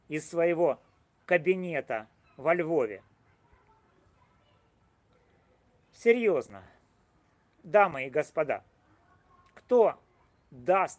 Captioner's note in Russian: Пауза